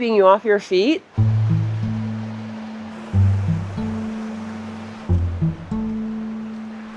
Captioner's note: water streams; eerie music